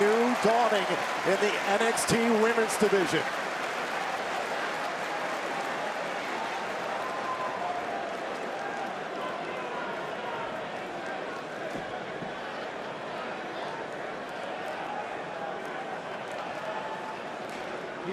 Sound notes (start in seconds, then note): 6.8 crowd chatter